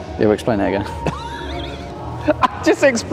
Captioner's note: laughing